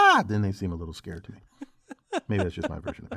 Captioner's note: laugh